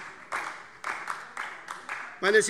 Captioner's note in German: Beifall SPD und DIE LINKE